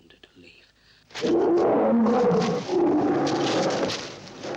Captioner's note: gorilla howls